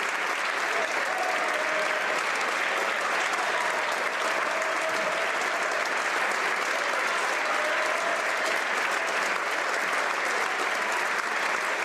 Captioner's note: applause